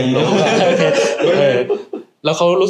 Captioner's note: laugh